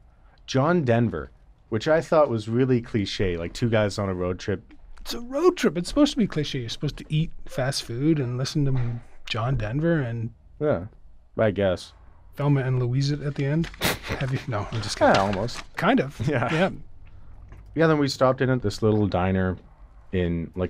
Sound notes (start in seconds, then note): 13.7 laughs